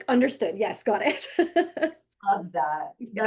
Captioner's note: laughing